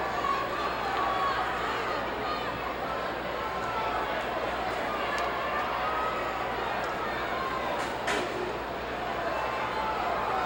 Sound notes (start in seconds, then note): 6.0 audience chattering